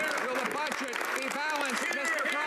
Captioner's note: some Applause